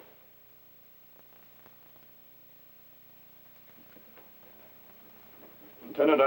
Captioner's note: silence